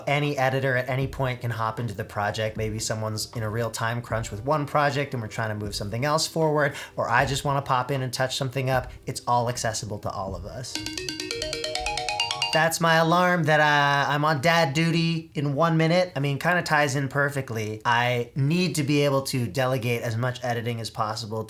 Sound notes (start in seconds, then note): 10.8 phone alarm goes off